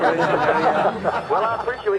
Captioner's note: crowd laughs